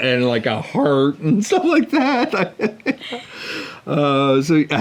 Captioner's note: laughing